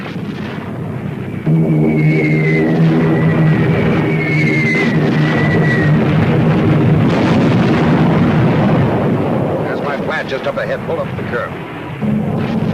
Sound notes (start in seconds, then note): 1.8 missiles whooshing; 6.0 explosion booming; 12.5 plane engine roaring